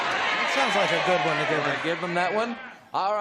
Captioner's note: audience exclamations